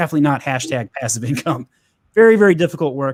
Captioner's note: chuckles